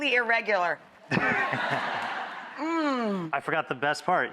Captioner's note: audience laughing